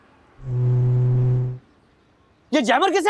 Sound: car noise

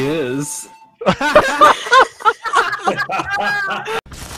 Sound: laughing

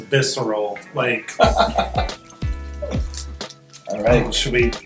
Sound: laughs

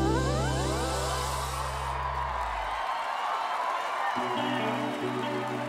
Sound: crowd applauds

